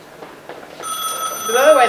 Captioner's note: telephone ringing